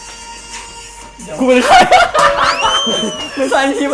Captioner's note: laugh